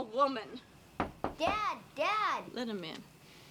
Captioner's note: knock at door